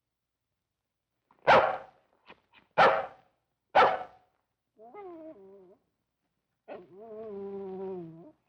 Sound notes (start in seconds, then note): 1.6 dog barking